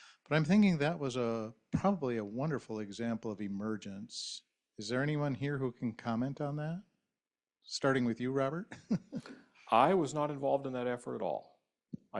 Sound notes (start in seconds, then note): 8.7 man chuckles